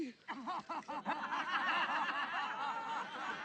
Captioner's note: laughing